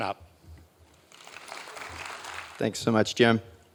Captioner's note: audience applauding